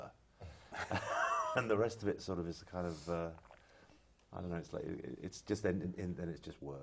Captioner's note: laugh